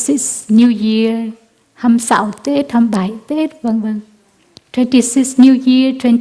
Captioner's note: Vietnamese